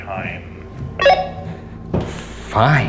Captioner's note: radio beeps